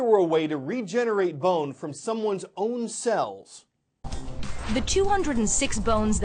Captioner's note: voice-over